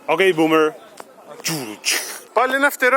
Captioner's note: pow pow pow